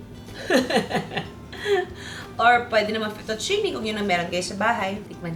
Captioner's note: laughs